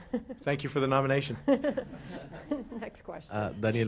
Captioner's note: laughter